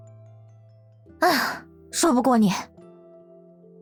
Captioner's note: sighs